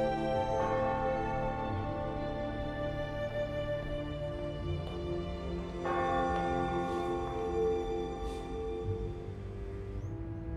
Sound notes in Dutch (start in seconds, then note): 0.3 church bell ringing; 5.4 church bell ringing